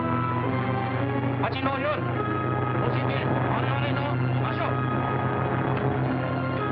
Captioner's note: speaking japanese